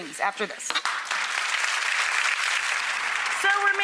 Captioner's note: audience applauds